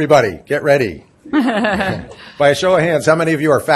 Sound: laughter erupts

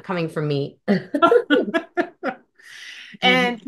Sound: laughs

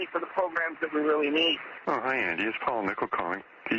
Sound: over telephone

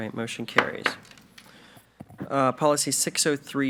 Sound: gavel knocks

